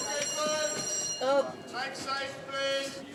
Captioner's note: bell rings